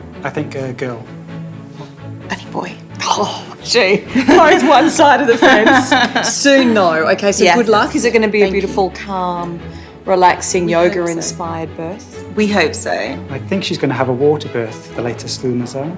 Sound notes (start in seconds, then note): 4.0 laughter